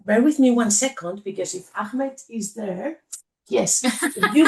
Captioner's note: laughs